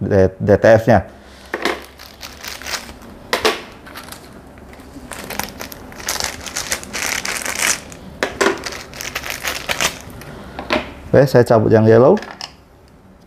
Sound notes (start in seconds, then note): 1.4 damper noise; 1.5 plastic noise; 8.1 damper noise; 8.1 plastic noise; 10.5 damper noise